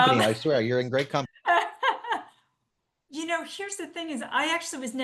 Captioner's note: laughs